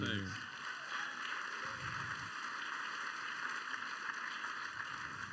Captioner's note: applause